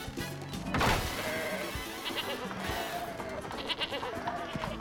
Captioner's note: bleating